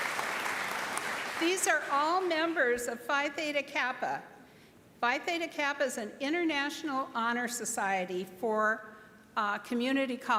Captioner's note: applause